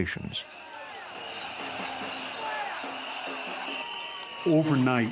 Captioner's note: shouting